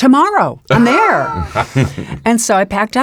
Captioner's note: laughs